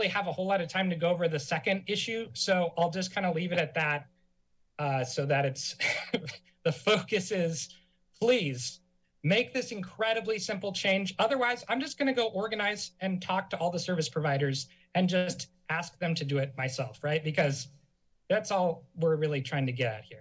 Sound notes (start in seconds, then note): 5.8 laugh